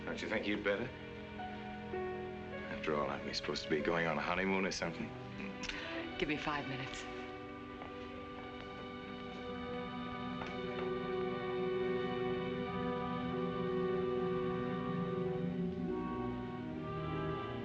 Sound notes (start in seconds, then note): 8.4 footsteps; 17.4 suspenseful music